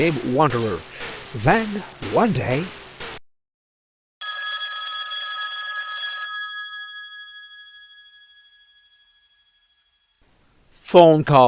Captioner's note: phone ring